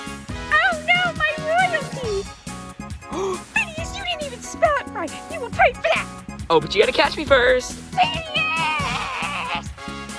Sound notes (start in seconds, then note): 3.1 gasp